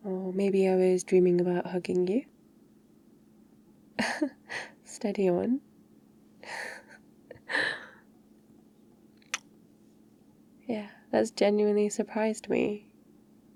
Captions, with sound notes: or maybe I was dreaming about hugging you *laughs* steady on... *kiss* yeah, that's genuinely surprised me